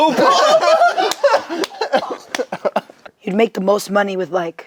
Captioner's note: group laughs